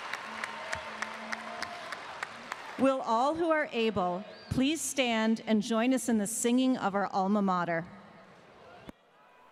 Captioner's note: applause